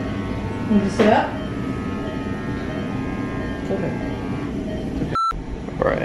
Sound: chatter; beeping

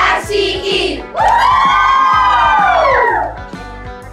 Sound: cheering

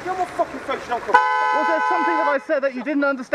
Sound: car horn

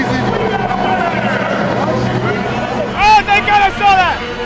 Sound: crowd noise

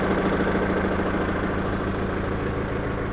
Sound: engine noise

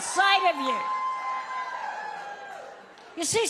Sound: audience cheering

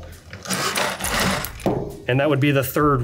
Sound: grinding

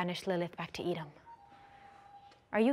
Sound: phone beeping

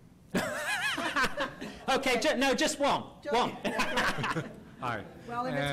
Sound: voiceover; laughs

